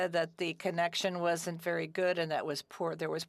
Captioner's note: speaking French